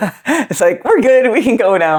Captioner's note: laughs